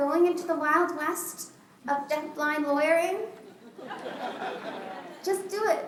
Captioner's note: laughter